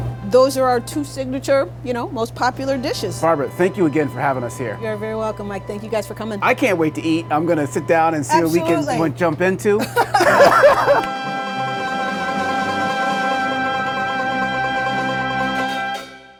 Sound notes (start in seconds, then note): 9.8 laughing